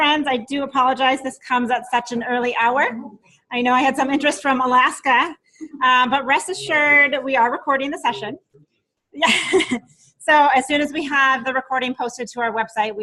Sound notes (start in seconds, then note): 9.2 laughing